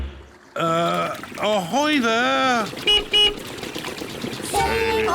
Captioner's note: toots horn; beeps horn